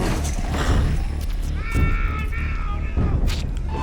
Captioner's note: yelling